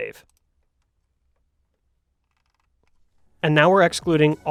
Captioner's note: mouse clicks